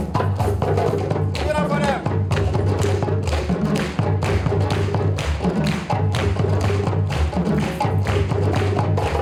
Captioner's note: clapping; clapping and drums